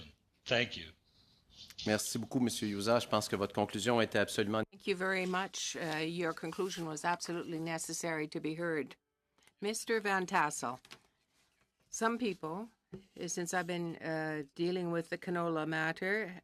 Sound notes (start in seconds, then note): 7.2 speaking French